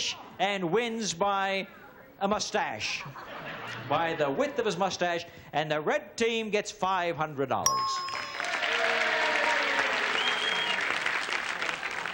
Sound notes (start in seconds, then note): 7.6 bell dings; 8.0 applause